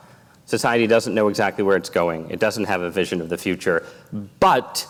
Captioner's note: none